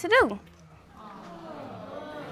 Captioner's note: audience exclaiming